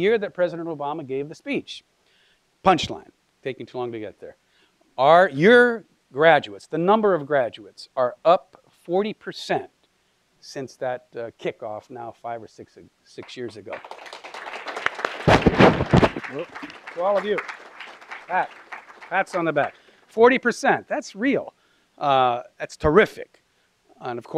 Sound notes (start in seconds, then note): 13.2 applause